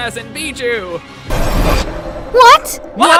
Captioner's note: swooshy Swoosh of Epic Dodging